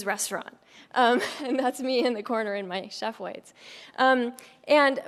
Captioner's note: laugh